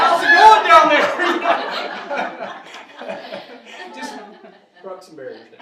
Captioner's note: audience laughing